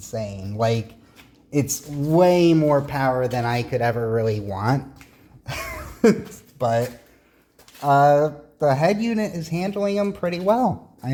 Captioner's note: laughs